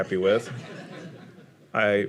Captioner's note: audience laughing